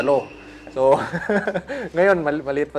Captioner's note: laughs